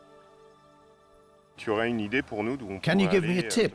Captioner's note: speaking French